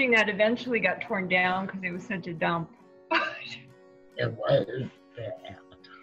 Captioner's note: laughs